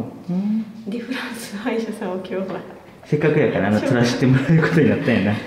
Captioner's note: laughter